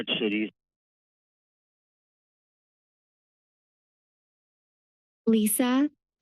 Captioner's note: silence